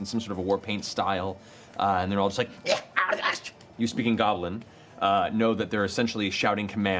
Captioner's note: goblin sounds